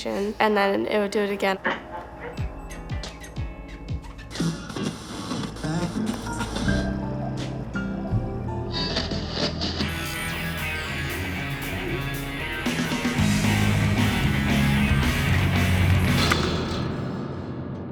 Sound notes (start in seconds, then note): 4.6 radio switches frequencies; 11.9 heavy rock music